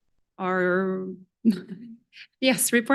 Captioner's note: chuckles